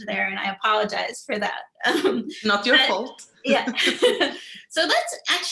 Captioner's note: laughter